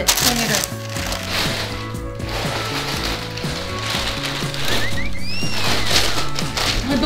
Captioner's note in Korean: 바스락 소리